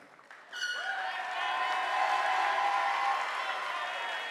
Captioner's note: audience applauding